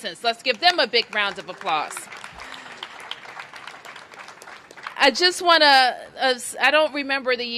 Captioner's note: applause